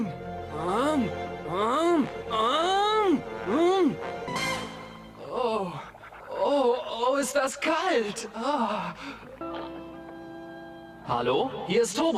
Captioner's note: speaking in foreign language